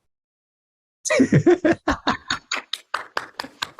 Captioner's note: laughter; applause